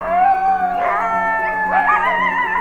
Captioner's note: coyotes howling